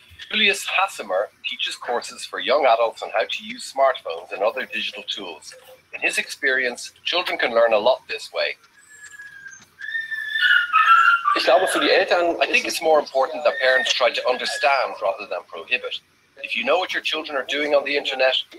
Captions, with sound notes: Filias Hassamer teachers courses for young adults and how to use smartphones and other digital tools. In his experience children can learn a lot this way. >> [ Foreign ] >> I think it's more important that parents try to understand rather than prohibit. If you know what your children are doing on the Internet,